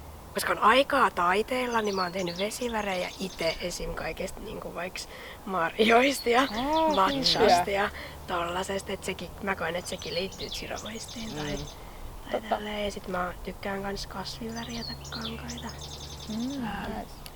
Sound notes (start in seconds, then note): 10.8 small birds tweeting